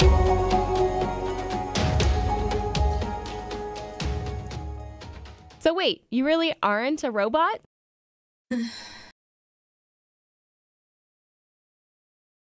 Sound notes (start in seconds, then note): 8.5 sigh